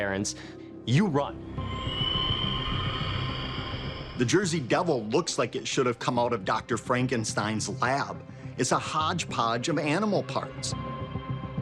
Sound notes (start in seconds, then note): 1.6 creature screeches